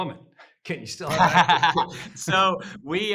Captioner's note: laughing